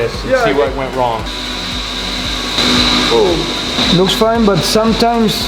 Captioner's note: machine whirring